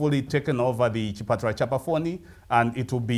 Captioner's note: speaking in foreign langauge